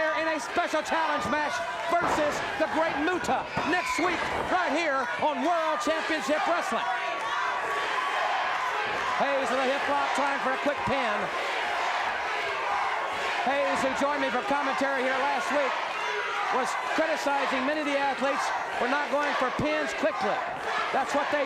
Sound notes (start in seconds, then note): 7.4 audience chanting